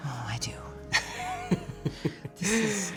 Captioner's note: laughing